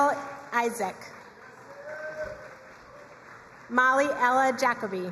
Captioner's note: crowd cheering and applauding